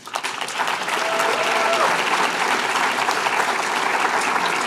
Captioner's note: applause